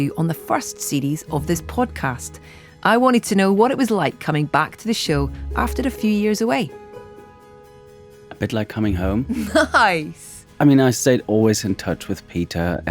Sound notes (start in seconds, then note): 9.3 laughs